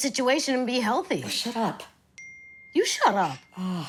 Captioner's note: phone chimes